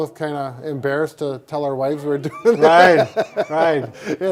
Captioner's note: laughing